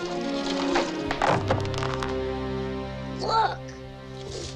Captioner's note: nuggets clattering